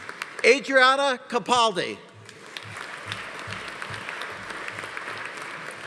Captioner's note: audience applauding